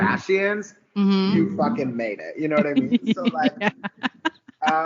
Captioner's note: giggling